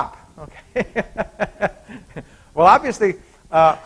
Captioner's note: chuckles